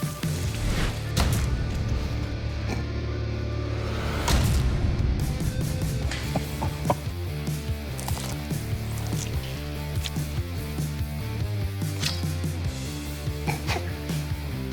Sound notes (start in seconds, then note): 6.2 laughing